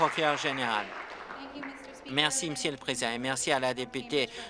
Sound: applause

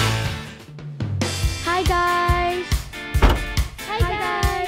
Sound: door slam

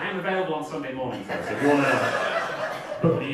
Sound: audience laughing

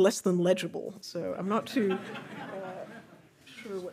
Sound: audience laughing

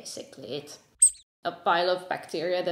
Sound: squeak

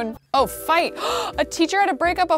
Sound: gasping

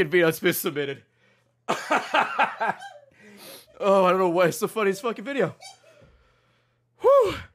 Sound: laughs

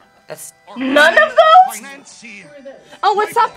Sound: buzzer

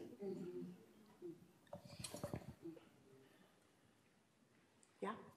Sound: audience murmuring affirmatively

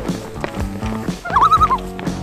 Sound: loon call

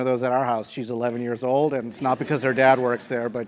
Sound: laugh

